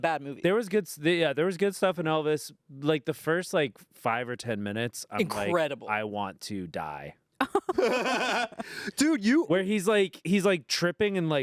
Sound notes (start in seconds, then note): 7.4 everyone laughs